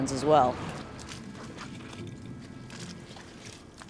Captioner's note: footsteps